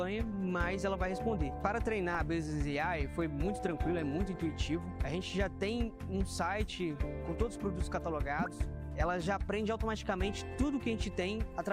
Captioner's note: speaking another language